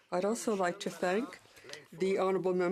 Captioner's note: speaking in French